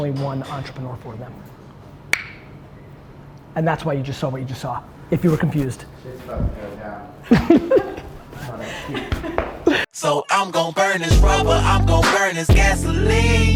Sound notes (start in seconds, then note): 2.1 clicks tongue; 7.2 Gary laughs